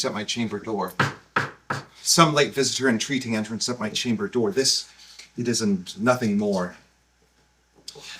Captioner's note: knock knock knock